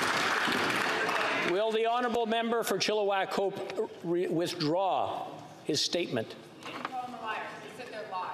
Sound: some Applause

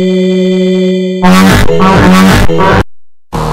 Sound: horn

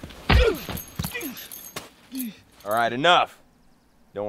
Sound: grunting

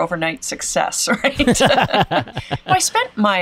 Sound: both laugh

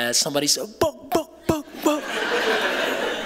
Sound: mimicking a beat; laughter

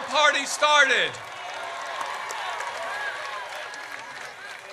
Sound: audience cheers

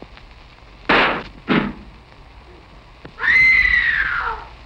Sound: gunshot; screaming

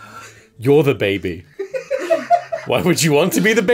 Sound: laughter

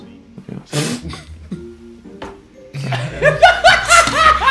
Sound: laughs

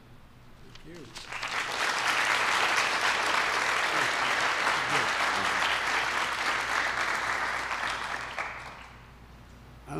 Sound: applause

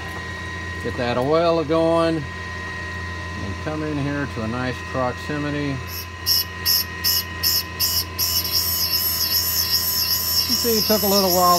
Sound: grinding noise

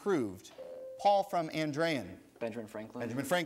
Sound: ding

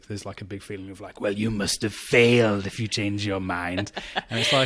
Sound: sinister voice

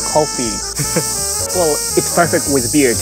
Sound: chuckles

